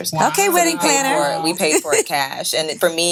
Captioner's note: laughing